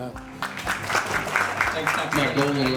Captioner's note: applause